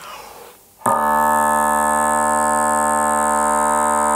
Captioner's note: low tone